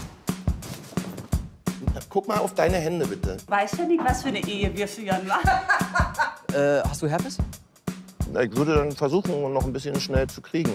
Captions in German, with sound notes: (Lässige Musik) Guck mal auf deine Hände bitte. Du weißt nicht, was für eine Ehe wir führen. (Lachen) Hast du Herpes? Ich würde versuchen, noch ein bisschen schnell zu kriegen.